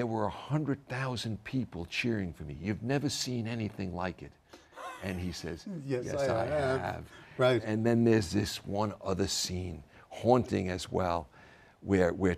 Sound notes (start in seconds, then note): 4.7 laugh